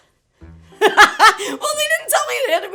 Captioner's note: Zelda laughs